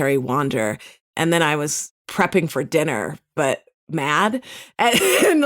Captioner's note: laughs